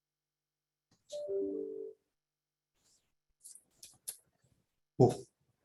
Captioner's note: computer chime jingling